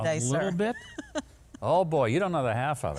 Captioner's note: chuckles